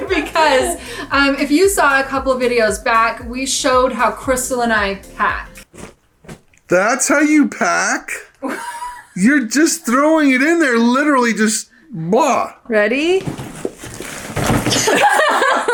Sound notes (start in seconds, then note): 5.9 air whooshing; 8.4 laughs; 14.7 both laugh